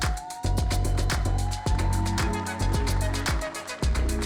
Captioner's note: audience cheering